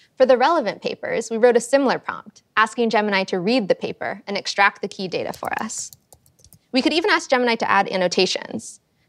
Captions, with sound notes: For the relevant papers, we wrote a similar prompt, asking Gemini to read the paper and extract the key data for us. [keyboard clicking] We could even ask Gemini to add annotations.